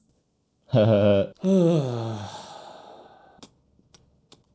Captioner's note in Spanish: suspiro